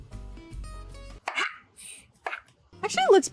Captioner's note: chill jazzy music; knife scrapes